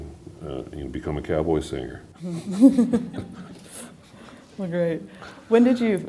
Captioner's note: laughter